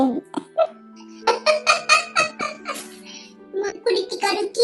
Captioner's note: laughs